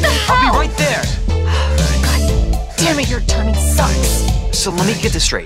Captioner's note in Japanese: ため息